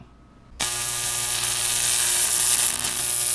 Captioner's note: electro-static buzz